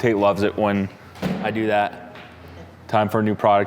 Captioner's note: box thumping